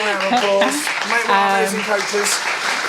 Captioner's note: audience clapping